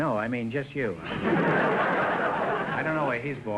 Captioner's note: audience laughter